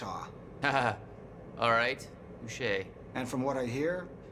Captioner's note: laughs